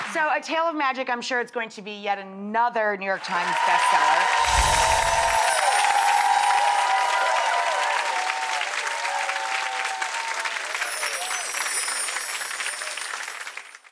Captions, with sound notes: So A Tale of Magic, I'm sure it's going to be yet another New York Times bestseller. (audience cheering)